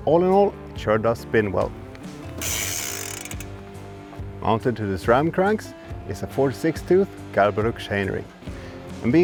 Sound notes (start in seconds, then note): 2.3 freewheel clicks smoothly